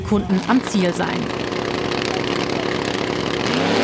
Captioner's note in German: Motorendröhnen